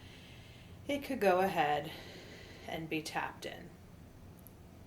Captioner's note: deeply exhales